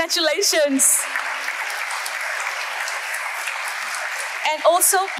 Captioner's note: audience applauding